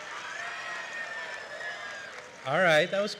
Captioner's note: cheering